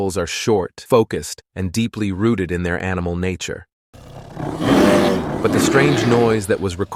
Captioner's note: sound of a bear growling